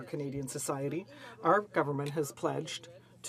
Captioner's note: speaking in French